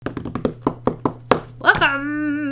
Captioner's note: drumming fingers